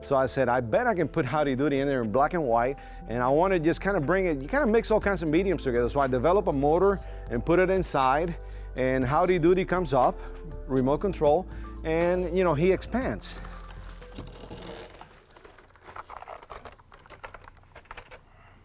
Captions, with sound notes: So I said, I bet I can put Howdy Doody in there in black and white, and I want to just kinda bring it. You kinda mix all kinds of mediums together. So I develop a motor and put it inside, and Howdy Doody comes up, remote control and, you know, he expands. (paper crinkling)